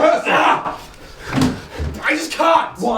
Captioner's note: growls